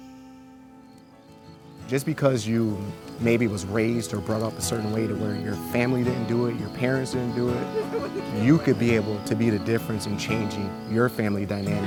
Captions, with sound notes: - Just because you, maybe was raised or brought up a certain way to where your family didn't do it, your parents didn't do it. (woman laughs) You could be able to be the difference in changing your family dynamics.